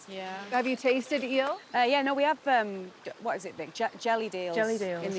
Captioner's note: none